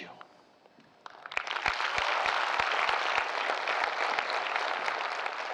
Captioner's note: audience applauding